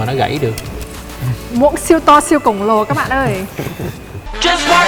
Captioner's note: laugh